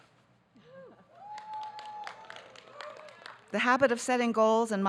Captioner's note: light cheering